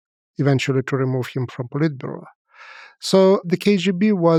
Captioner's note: speaks foreign language